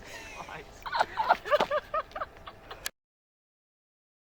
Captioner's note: crew laughing